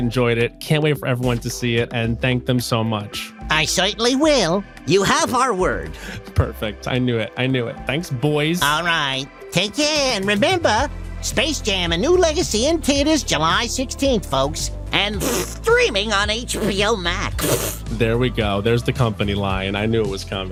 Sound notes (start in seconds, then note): 17.3 spitting